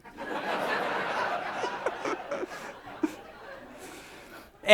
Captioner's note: audience laughs